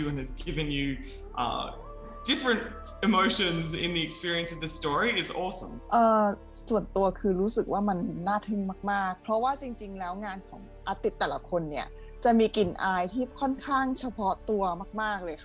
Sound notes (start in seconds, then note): 6.1 quiet music; 6.1 speaking Thai